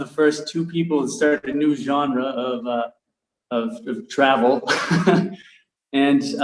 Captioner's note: chuckles